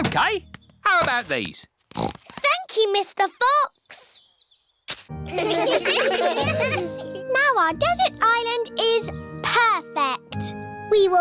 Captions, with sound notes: OK, how about these? (SNORTS) Thank you, Mr. Fox. (LAUGHTER) Now our desert island is perfect.